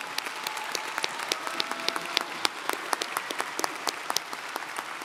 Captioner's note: audience applauding